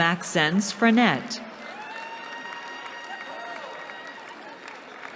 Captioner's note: cheering